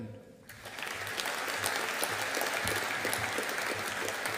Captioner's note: audience applauding